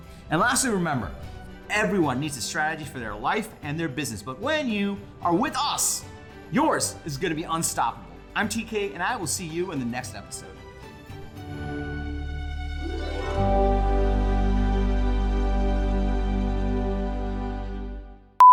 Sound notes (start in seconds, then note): 10.6 happy music; 18.4 beeping